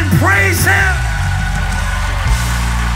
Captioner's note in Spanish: Aplausos